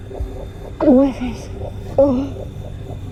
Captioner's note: grunts